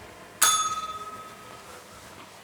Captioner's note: bell rings